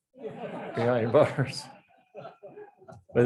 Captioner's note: audience laughs